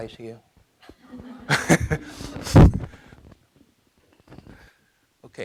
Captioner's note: laughing; audience laughing